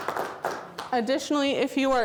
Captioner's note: audience Applause